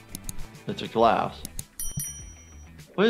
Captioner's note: bell chiming